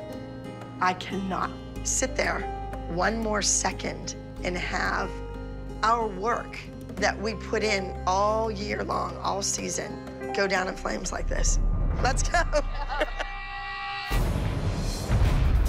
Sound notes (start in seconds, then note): 12.2 laughing